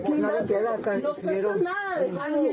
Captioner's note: speaking in foreign language